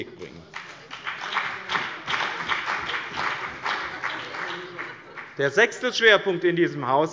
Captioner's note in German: Beifall bei dem BÜNDNIS 90/DIE GRÜNEN und der CDU